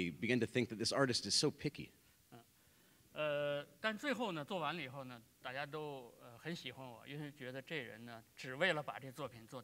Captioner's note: speaking in Chinese